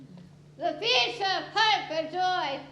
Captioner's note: none